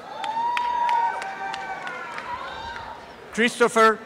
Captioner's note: applause and cheering